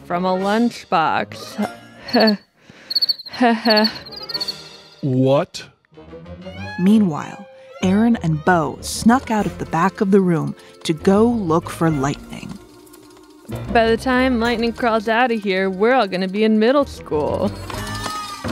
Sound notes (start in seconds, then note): 1.7 nervous laughter